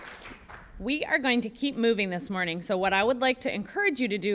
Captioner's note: applause